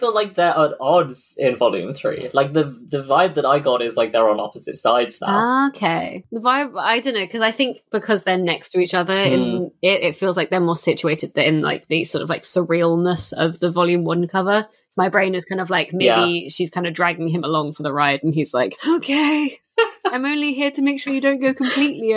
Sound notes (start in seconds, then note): 19.5 laughs